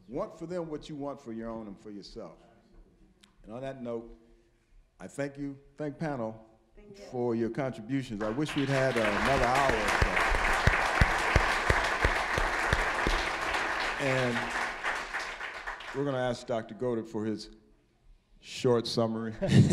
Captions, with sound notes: Want for them what you want for your own and yourself. And on that note, I thank you. Thank the panel for your contributions. I wish we'd had another hour. (applause) And we're gonna ask Dr. Goedert for his short summary.